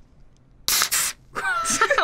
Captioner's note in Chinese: 噴！